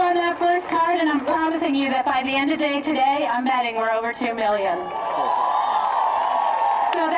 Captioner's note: applause